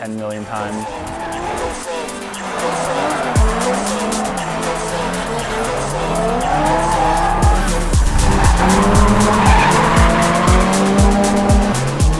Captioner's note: music and drifting noises